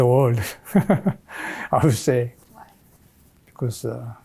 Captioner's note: chuckles